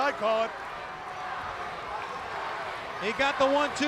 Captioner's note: crowd cheering